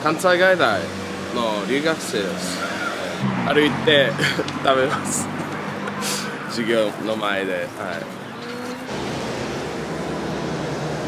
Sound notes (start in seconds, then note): 3.8 laughs